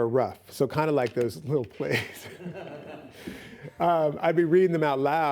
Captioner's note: laughs